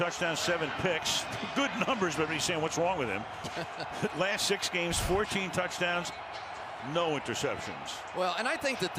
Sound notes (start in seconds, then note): 3.4 laughs